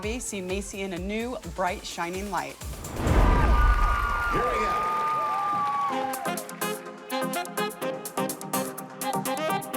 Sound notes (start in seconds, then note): 3.0 cheers and applause